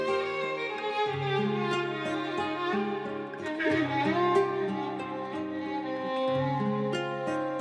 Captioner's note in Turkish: Ağlıyor